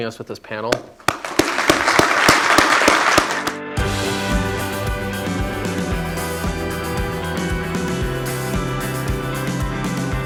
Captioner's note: applause